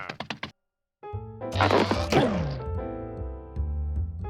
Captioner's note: grunts